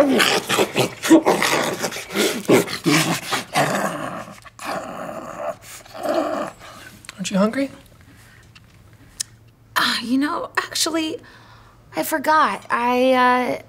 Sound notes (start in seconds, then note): 0.0 snarling; 2.6 growling